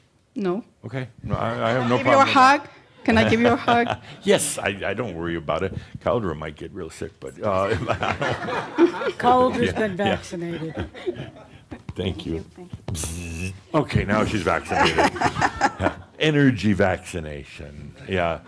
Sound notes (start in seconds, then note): 7.6 laughter; 14.8 she chuckles